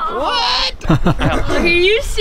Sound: laughing

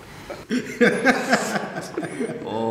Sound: laughing

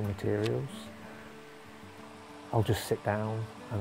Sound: sound of river

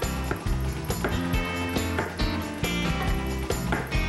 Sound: tap! Tap! Tap!

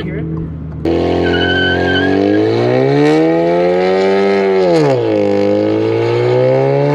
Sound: tires squeaking; engine revving

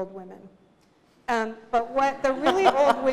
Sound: laughter

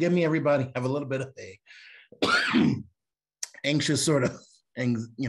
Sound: cough

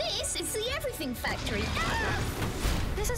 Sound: screams

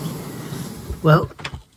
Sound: sound of waves crashing against the shore

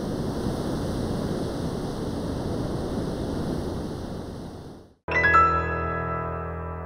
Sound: surf roaring

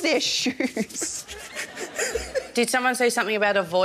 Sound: laughs

